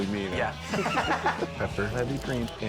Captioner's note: laugh